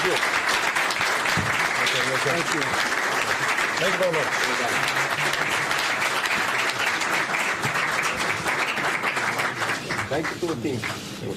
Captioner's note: applause